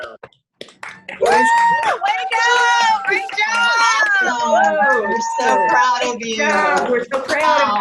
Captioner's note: people cheering, applauding, and speaking over each other